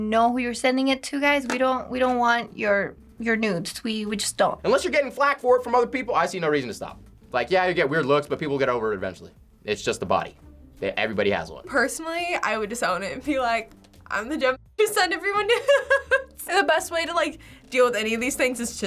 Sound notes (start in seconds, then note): 15.4 laughs